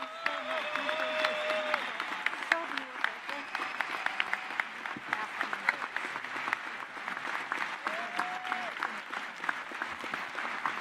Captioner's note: cheers and applause